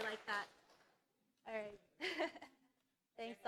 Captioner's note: applause